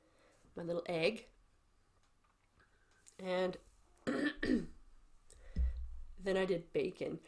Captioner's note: clears throat